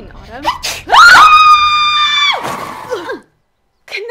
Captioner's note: Kanani screams